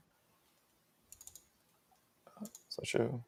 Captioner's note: mouse clicking